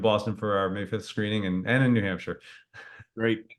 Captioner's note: laughs